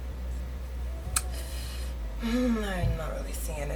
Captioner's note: deep sigh